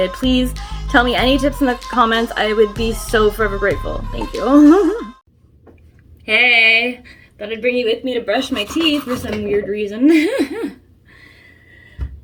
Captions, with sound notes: Please tell me any tips in the comments. I would be so forever grateful. Thank you [giggle] Hey! Thought I'd bring you with me to brush my teeth for some weird reason. [laughs]